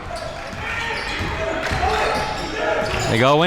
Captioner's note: audience yelling